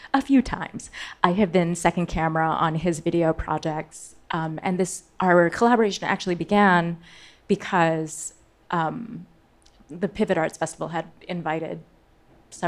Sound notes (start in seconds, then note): none